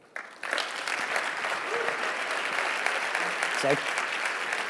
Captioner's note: audience clapping